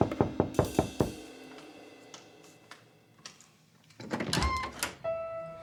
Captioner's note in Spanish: Toques en la puerta